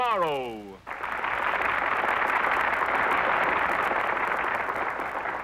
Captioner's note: audience applauds